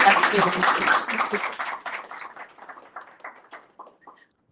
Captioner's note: applause